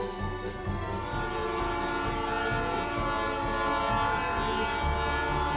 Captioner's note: train horn blowing